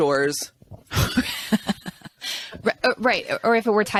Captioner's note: both laughing